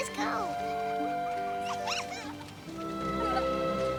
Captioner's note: giggling